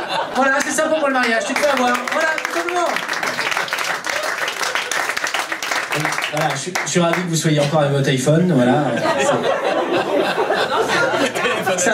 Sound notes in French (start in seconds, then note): 0.0 rires public; 1.2 applaus public; 8.6 rires public